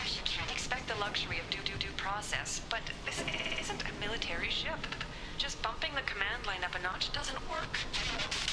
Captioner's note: static